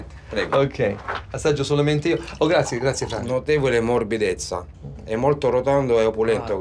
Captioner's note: speaks Italian